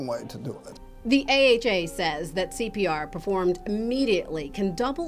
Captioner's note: voiceover